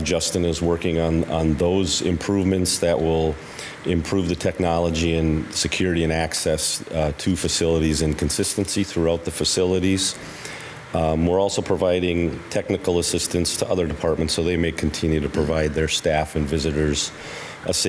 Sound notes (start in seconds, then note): none